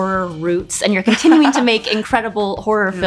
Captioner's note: Nia laughs